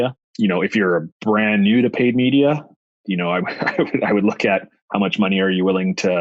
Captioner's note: laughs